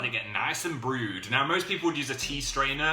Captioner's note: extreme northern accent